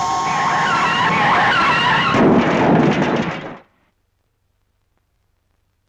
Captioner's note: car crashing